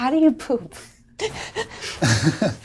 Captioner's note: all laugh